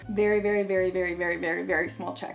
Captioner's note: none